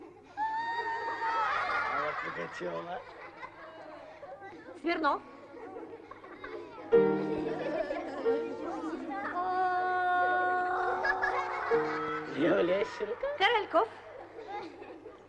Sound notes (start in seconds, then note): 3.4 general laughter